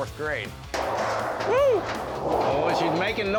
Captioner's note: clanging